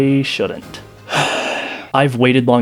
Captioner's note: defeated sigh